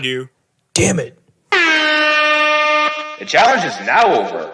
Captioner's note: an airhorn plays through the loudspeaker